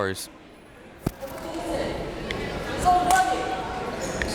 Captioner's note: crowd members talking